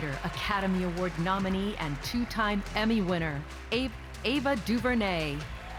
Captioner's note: cheers and applause